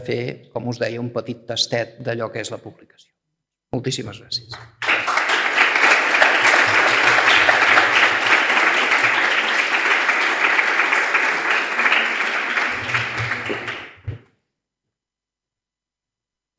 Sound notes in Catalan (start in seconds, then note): 4.4 Aplaudiment